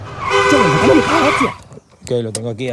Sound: horn

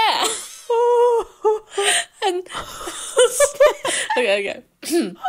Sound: laughing

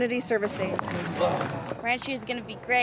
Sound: moving rocks

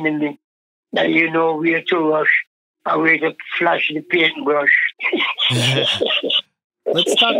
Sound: laughs

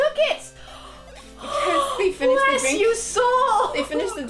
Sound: exhale

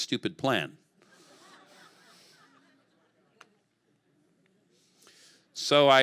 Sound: congregation laughing

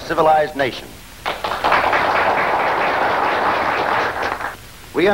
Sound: all clapping

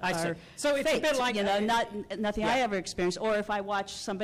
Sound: voiceover

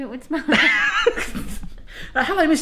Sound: laughing

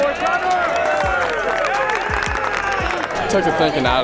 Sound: cheering

